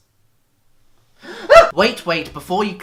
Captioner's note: gasp